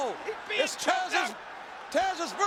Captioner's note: overlapping chatter